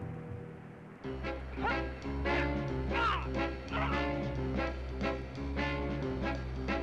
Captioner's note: dramatic music; Tom grunting